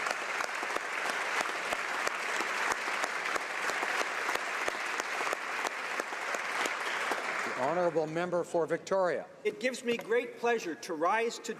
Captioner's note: applause